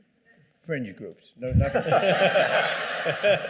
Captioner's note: laughter